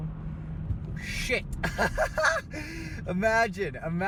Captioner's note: laughs